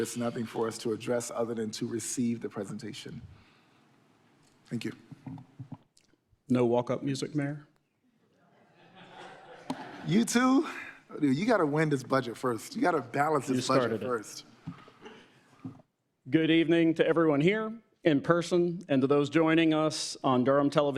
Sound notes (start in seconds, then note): 8.5 sporadic laughter